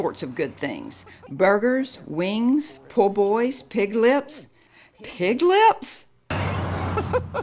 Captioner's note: chuckles